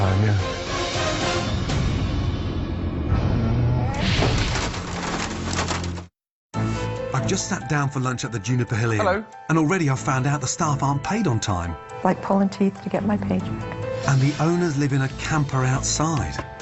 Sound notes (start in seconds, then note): 0.0 dramatic music; 3.0 elevator doors creaking; 4.0 crashing